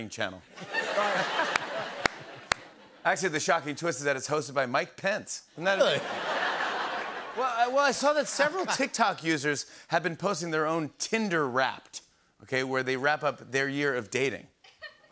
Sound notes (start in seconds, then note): 0.2 claps; 0.5 laughter; 5.7 laughter